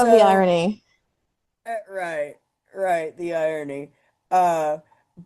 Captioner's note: laugh